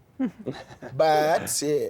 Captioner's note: chuckling